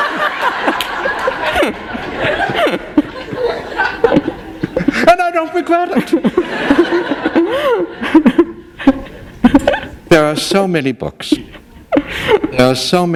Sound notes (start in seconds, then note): 0.0 laughter; 7.4 laughter